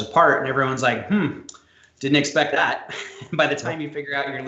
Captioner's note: chuckles